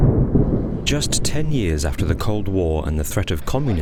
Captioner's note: voiceover